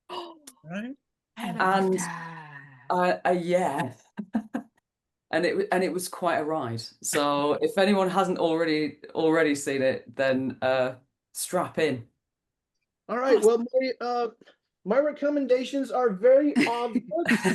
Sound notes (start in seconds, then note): 4.6 laughs